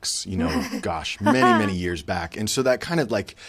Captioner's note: chuckles